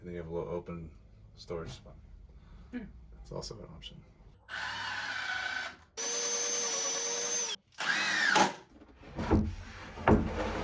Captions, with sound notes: and then you have a little open storage spot. That's also an option. (drill buzzing)